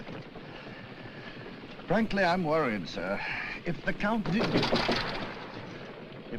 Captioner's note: bumps, Clatters